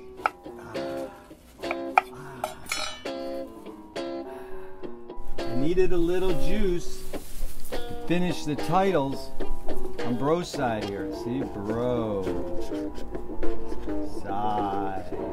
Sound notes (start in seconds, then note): 0.0 knife clinks softly; 2.4 knife clatters softly; 2.6 knife clinks softly; 4.6 twangy guitar music; 14.7 twangy guitar music